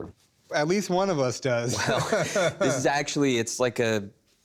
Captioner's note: laughs